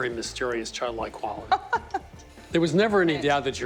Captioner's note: laughing